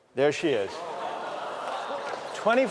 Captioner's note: gasps, chatter, laughter